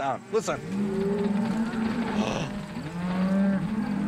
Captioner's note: cows mooing